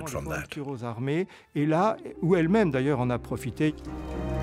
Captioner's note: French spoken audio